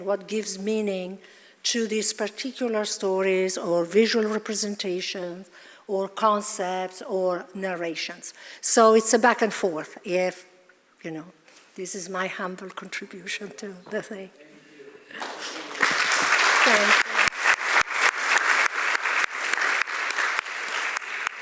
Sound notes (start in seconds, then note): 17.6 audience applauding